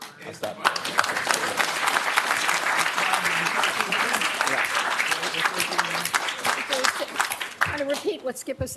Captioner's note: applause